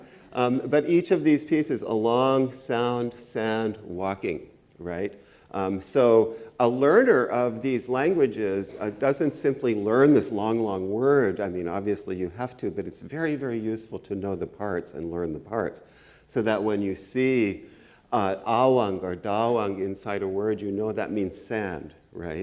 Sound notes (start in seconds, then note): 17.5 speaks Ojibwe